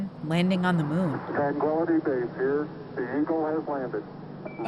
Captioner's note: soundbite of archived recording